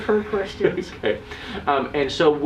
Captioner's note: laughs